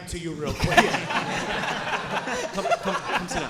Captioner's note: audience laughing